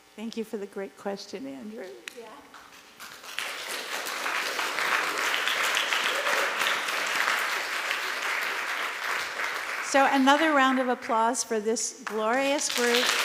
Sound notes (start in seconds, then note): 3.0 applause